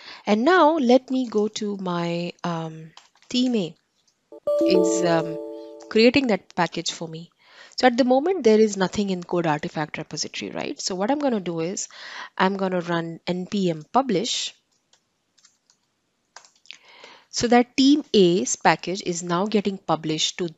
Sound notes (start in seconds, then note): 4.4 computer alerts